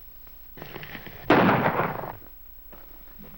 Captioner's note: gunshot